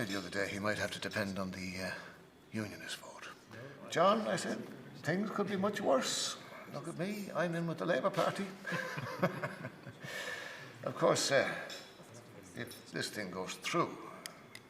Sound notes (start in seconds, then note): 8.6 laughing